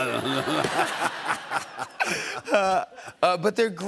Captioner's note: laughter